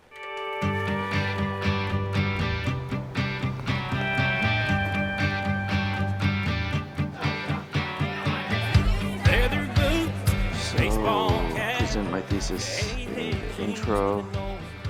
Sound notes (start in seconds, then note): 0.2 rhythmic country rock music with twangy guitar; 7.3 patrons chattering